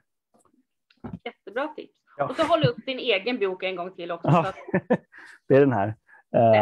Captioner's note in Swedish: Skrattar